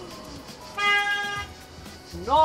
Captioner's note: car horn blares